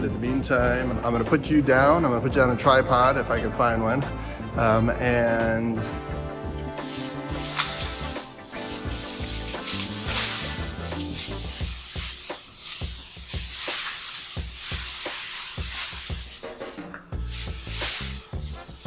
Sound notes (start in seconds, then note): 11.2 tearing paper